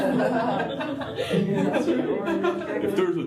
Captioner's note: laughter